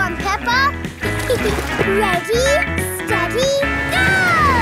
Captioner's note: giggles